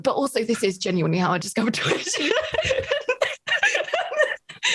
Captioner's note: laughs